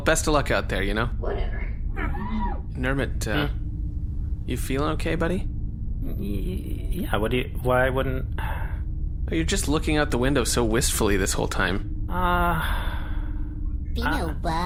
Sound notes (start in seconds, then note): 8.3 sighs